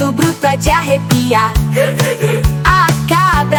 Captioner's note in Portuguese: Grrr, grrr, grrr